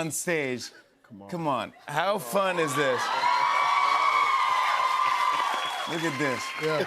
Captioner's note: cheers and applause